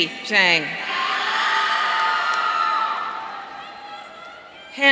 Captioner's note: audience cheering